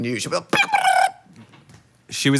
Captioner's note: warbles